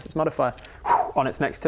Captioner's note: whoosh